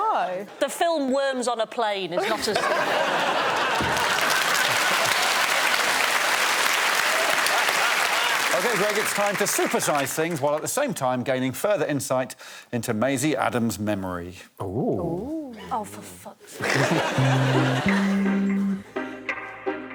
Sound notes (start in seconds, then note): 4.5 laughter